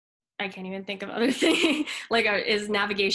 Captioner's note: chuckles